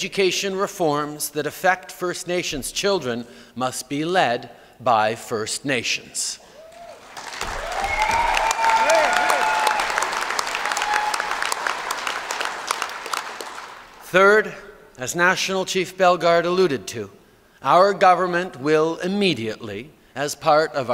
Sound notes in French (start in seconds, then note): 9.1 Acclamations et applaudissements